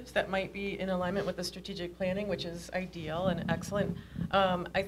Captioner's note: none